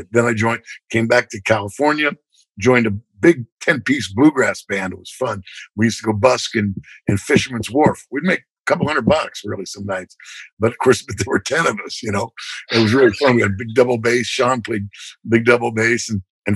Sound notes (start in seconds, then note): 11.9 laughter